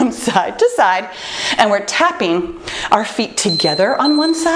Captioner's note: timer beeps